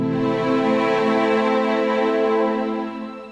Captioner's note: none